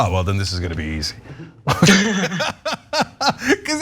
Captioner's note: laugh